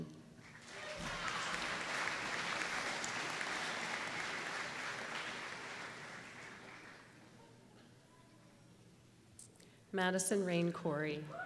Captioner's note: applause